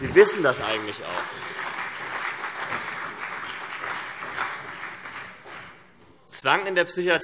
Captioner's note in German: Beifall CDU und BÜNDNIS 90/DIE GRÜNEN